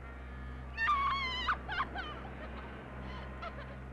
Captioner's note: screaming; crying